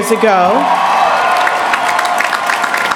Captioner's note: applause